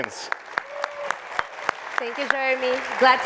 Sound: audience applauds

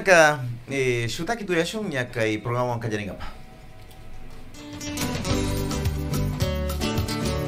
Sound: habla en quichua

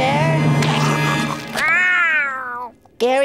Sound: snoring; meowing

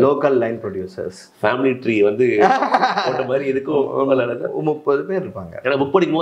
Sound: chuckles

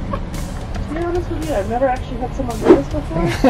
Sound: woman In Speakerphone

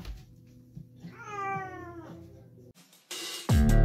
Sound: cat meows in protest

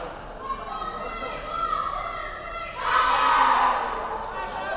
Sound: players chanting

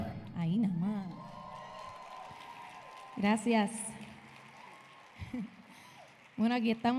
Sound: audience cheering; audience applauding

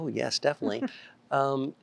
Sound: giggling

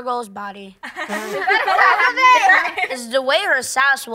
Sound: all laughing

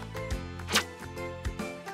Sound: swishing sound

